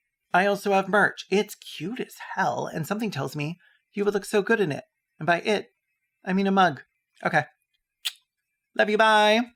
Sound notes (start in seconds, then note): 8.0 blows k*ss